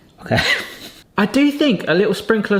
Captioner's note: laughs